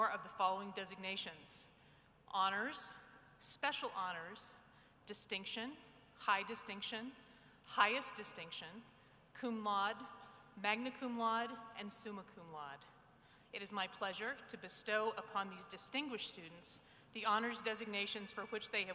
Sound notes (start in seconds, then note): none